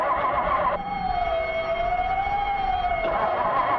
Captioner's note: engine revving; siren alarming; engine revving